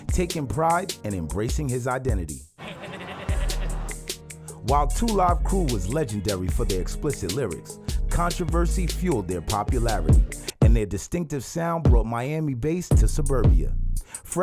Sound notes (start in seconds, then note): 2.6 laughing; 10.6 bass thumping